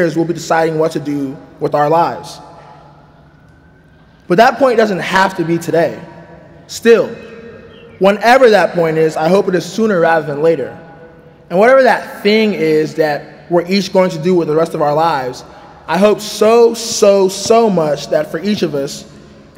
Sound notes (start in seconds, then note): none